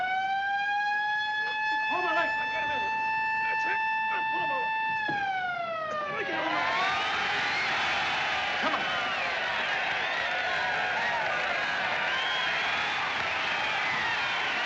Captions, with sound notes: GIL! HOLD MY LEGS SO I CAN GET HIM IN HERE! THAT'S IT! PULL HIM OVER! [ Crowd Screaming, Cheering ] . COME ON! [ Cheering, Screaming Continue ] .